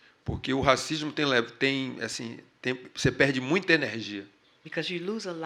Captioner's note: speaking portuguese